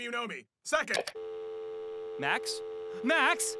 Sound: phone cuts off

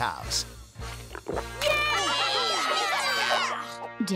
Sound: cheering

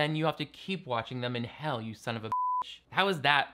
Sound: beep

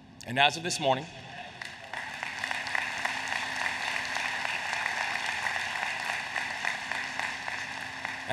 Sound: applause

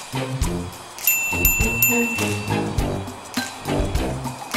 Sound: chiming

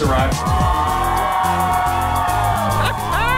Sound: crowd cheering; laughing

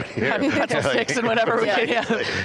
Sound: everyone laughing

